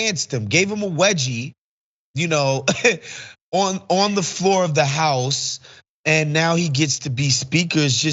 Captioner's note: laugh